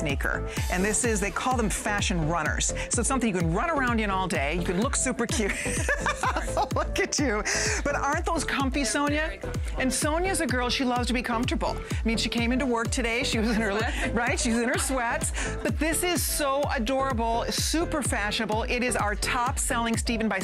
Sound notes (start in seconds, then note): 8.0 laughter